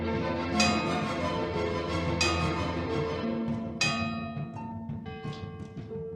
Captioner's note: bells tolling